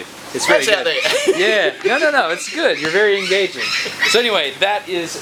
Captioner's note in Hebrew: צוחק